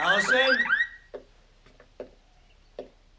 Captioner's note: alarm stops ringing